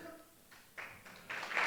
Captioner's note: applause